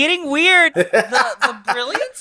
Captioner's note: laughs